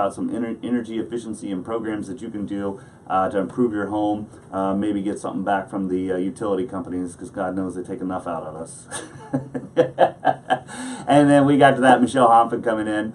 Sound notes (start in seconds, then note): 8.9 laughing